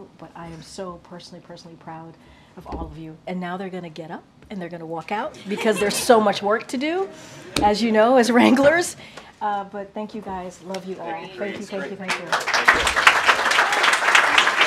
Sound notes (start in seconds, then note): 5.4 laughter; 14.4 applause